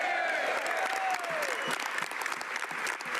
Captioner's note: speaking French